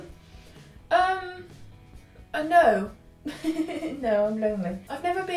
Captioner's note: laughs